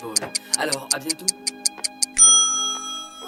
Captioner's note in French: tic tac de chrono